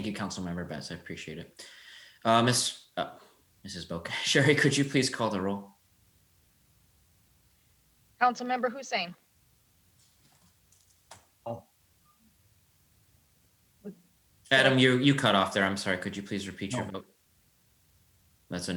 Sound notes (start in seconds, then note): 3.5 chuckles